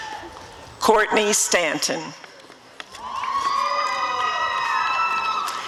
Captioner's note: applause and cheering